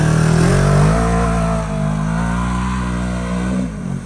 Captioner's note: ATV engine roaring